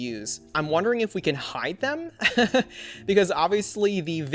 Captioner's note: laughs